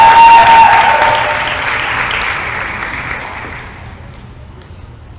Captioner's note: applause & cheering